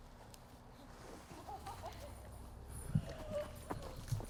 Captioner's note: riendo